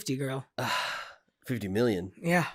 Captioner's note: sigh